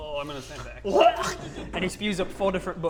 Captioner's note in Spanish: Vomita